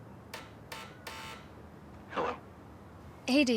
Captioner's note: sound: door buzzer; through intercom